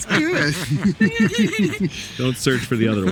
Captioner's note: group laughing